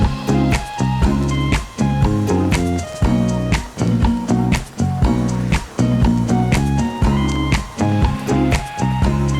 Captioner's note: clapping